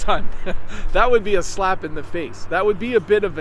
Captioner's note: laughs